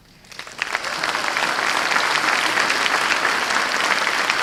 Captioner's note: applause